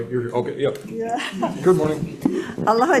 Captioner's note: chuckles